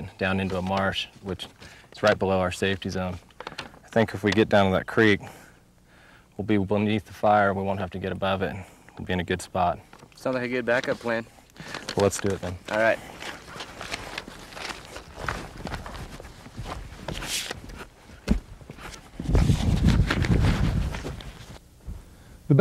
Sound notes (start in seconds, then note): 15.3 equipment shuffling and squeaking; 19.1 wind blowing